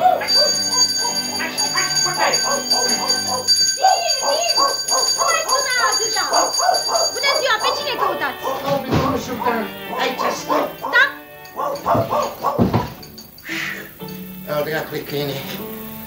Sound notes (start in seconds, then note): 5.8 sound of bells; 11.5 sound of a barking dog